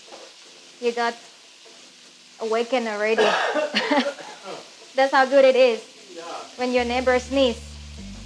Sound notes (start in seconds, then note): 3.1 camera man coughing in background